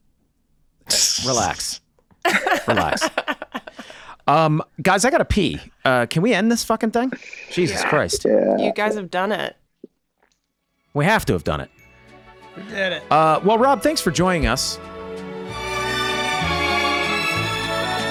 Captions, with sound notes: (Charlie, laughing) - Relax, relax. Guys, I gotta pee. Can we end this fucking thing? Jesus Christ. - Yeah. - You guys have done it. - We have to have done it. - We did it. - Well, Rob, thanks for joining us. (elegant music)